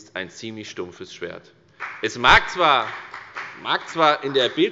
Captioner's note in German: Beifall bei der FDP